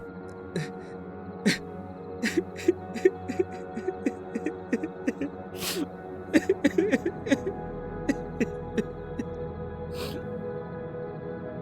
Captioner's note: Jackson cries